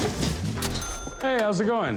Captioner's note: cash register dings